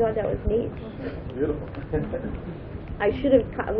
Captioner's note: gülüyor